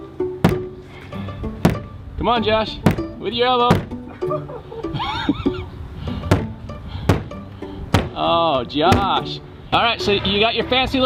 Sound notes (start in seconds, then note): 1.6 window thumping; 3.6 thumps loudly; 4.0 laughs; 6.3 loud banging